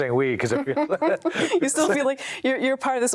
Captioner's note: both laughing